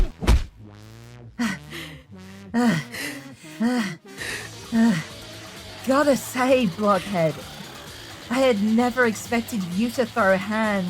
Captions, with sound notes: *Panting.* Gotta say, blockhead… I had never expected you to throw hands…